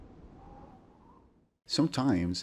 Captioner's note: ambience